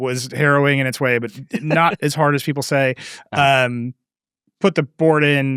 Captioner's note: laughing